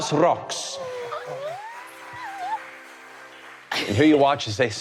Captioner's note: crowd applauding